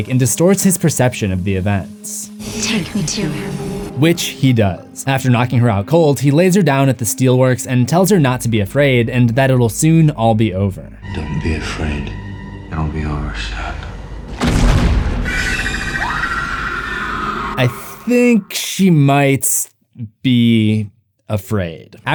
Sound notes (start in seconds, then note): 14.3 thumps; 15.2 screams